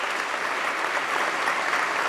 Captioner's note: applause